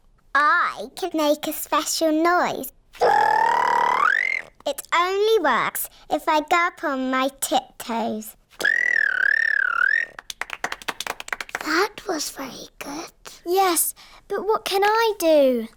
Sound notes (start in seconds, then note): 2.9 high-pitched whistle; 8.6 whistles